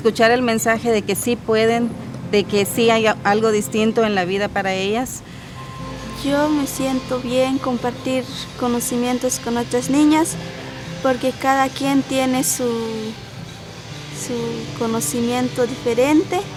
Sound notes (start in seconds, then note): 6.2 speaking in foreign language